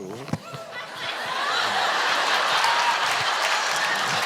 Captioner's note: audience cheering